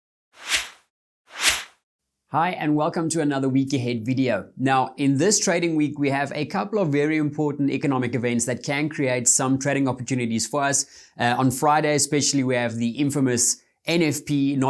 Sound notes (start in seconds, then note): 0.4 synth swish